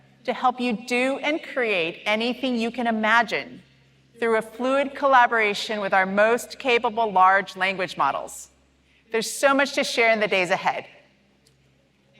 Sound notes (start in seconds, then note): none